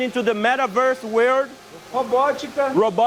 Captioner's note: non-english speech